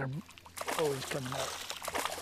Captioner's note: splash